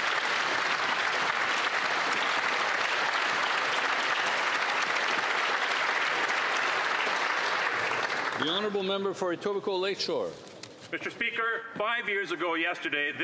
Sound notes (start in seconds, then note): 7.2 applause